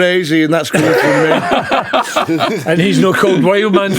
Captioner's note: laughing